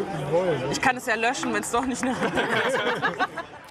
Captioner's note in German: Lachen